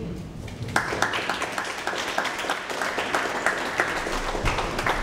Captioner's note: audience applauds